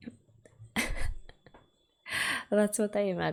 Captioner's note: laughs